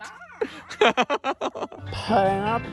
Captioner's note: laughing